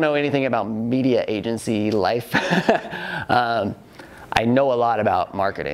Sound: laughs

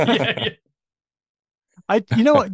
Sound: laughter

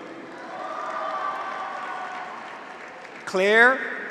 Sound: audience applauds; graduates cheer

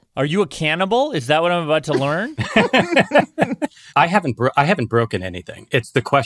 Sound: laughs

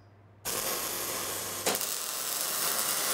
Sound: hissing

